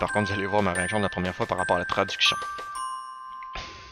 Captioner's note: french